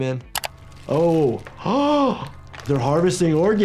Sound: mouse clicks; gasps

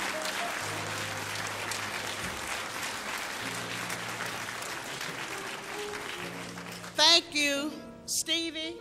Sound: applause

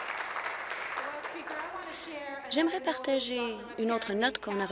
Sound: applause

